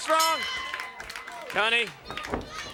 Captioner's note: bell dinging